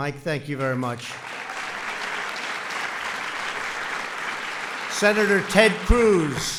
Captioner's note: applause